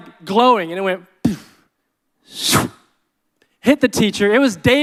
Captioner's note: zooming